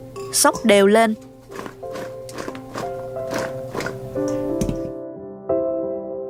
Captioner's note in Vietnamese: khịt mũi